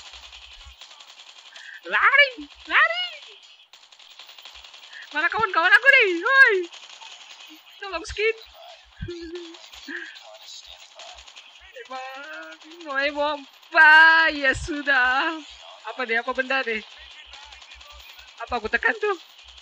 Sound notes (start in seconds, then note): 7.8 crying